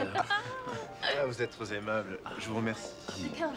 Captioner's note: nervously speaking French; Henri speaking French